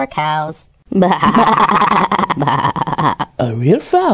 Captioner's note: laughing